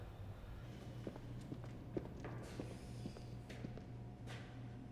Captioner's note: shoes clacking